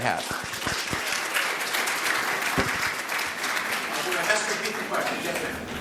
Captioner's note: audience applauds